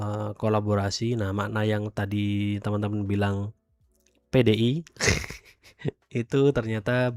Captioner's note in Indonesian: tertawa